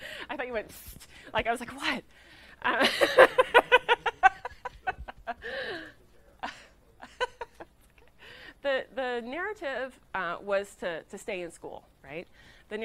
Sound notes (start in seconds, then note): 0.0 laughing; 2.8 laughing loudly